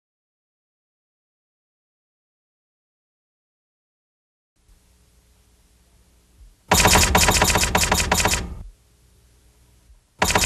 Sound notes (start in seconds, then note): 6.7 typewriter squeaks